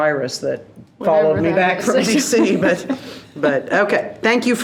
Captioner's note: laughs